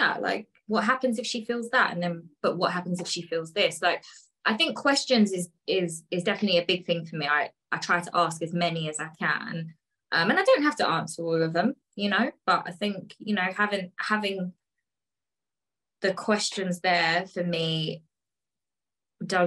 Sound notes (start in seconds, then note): none